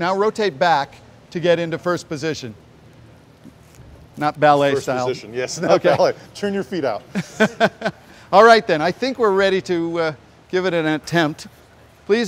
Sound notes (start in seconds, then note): 5.5 laughter